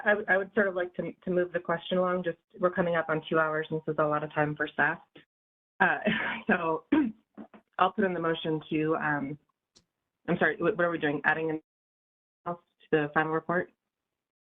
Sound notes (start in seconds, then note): 6.8 laugh; 6.9 cough